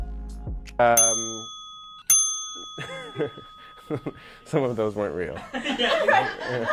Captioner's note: laughs